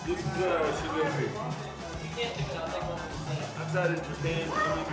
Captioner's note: employees conversing